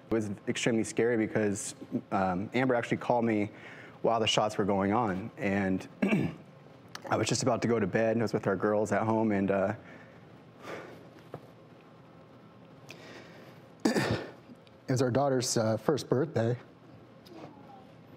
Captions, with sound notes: It was extremely scary because Amber actually called me while the shots were going on, and I was just about to go to bed and I was with our girls at home. (sighing and clearing throat) It was our daughter's first birthday.